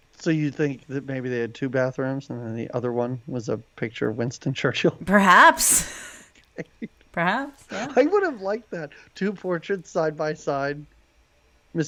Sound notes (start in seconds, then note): 7.6 man laughs